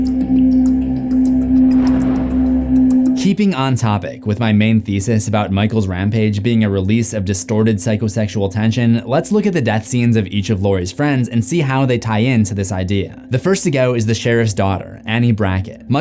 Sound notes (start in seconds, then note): 3.1 ominous music; 3.1 thunder rumbling